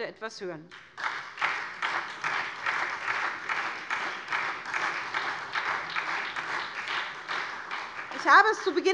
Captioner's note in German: Beifall SPD